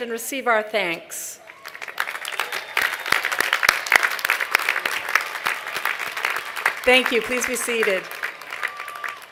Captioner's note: applause